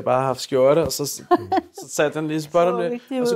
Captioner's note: laughs